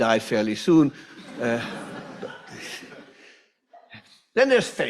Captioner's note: audience laughs